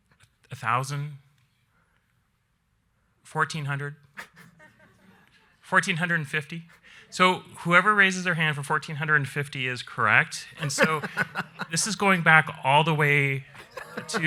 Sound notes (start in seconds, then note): 4.2 audience laughing